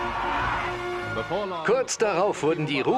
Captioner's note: voiceover